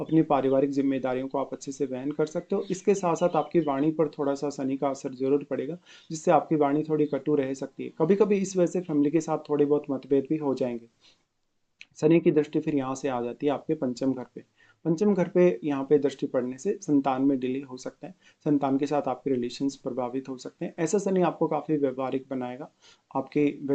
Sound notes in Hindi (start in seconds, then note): 11.8 नाक से की जाने वाली आवाज़